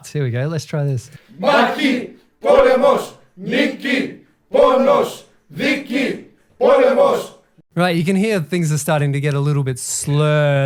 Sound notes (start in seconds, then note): 4.5 crowd chanting Greek in recording